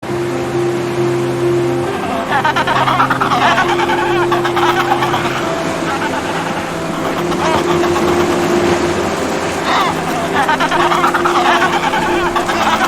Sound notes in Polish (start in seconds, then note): 0.1 szum wody; 2.3 terkotanie pingwinów; 4.3 spokojna muzyka; 10.3 terkotanie pingwinów